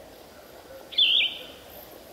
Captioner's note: birds chirping